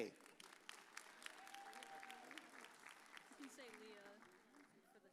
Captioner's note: audience cheers